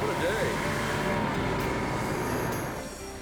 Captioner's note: boat humming; soft music